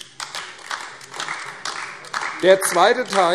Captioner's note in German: Beifall AfD